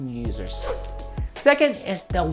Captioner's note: whooshing sound